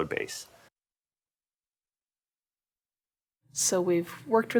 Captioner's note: pause